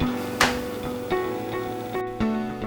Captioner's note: hands smack